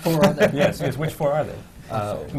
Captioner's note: laughter